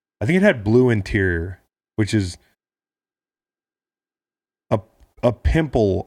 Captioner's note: none